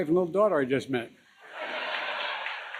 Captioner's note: laughter